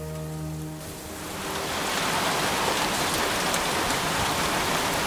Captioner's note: heavy rain patters